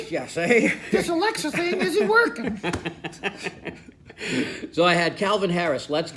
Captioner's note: laughing